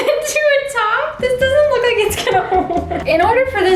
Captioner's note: both laughing; chuckles